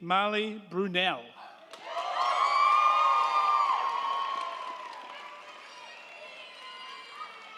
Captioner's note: crowd cheering; crowd clapping